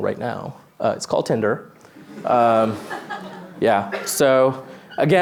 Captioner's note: laughter